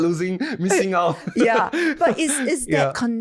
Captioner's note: laughing